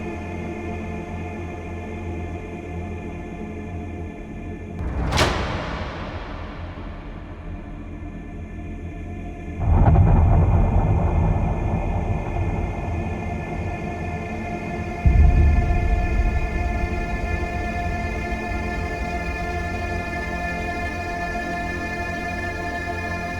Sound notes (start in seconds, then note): 0.2 intense dramatic music continues; 9.8 image booming; 18.5 intense dramatic music continues